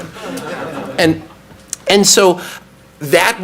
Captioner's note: audience laughs